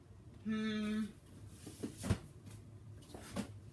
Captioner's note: shuffling